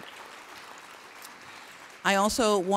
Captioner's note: applauding